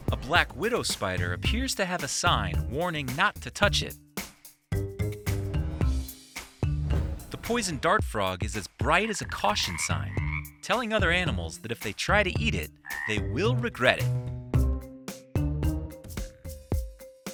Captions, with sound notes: A black widow spider appears to have a sign warning not to touch it. (light music) - The poison dart frog is as bright a caution sign, (frog croaking) (light music) telling other animals that if they try to eat it, they will regret it. (light music)